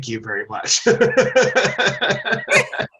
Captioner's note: laughs; chuckles